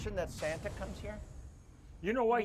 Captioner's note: bold beat plays; grill sizzles